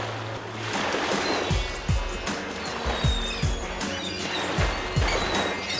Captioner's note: birds squawking; water lapping